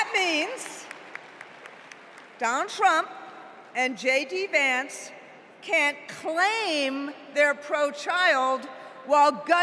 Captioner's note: applause